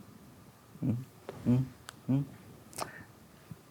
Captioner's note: humming